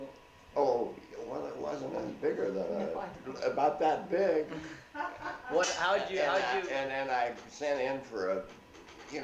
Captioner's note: laughs